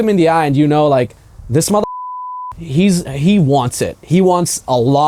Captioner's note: beeping